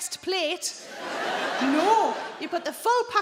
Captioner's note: audience laughing